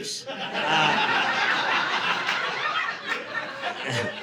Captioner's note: audience laughing